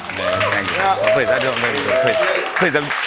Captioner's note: applause